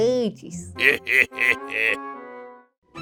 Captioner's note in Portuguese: Risada malvada